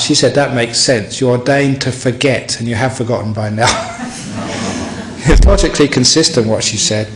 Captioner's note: laughter